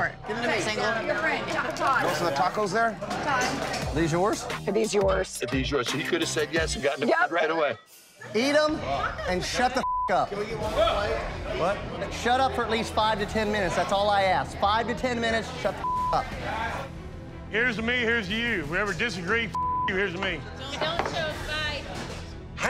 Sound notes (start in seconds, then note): 9.8 beep; 15.8 beep; 19.5 beep